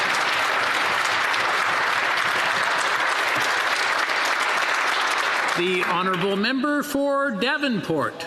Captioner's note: applause